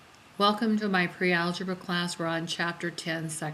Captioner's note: voiceover